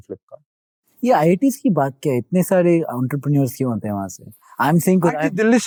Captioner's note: speaking in Hindi